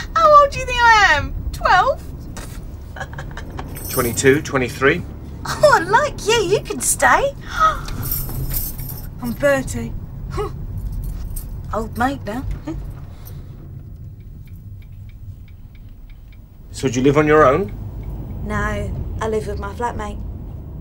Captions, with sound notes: How old do you think I am? 12? [laughs] 22, 23? [laughingly] Oh, I like you, you can stay! I'm 30. [laughs] Old maid now. [laughs] So, do you live on your own? No. I live with my flatmate.